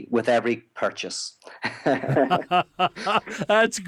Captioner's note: laughter